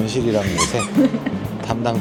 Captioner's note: laughter